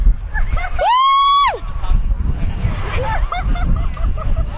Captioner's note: screaming